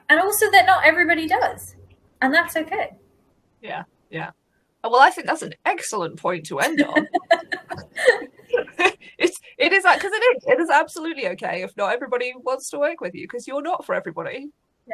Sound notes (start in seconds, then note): 6.6 laughs